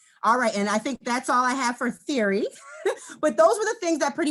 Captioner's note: laughs